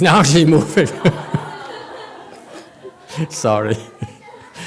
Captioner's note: laughs, audience laughs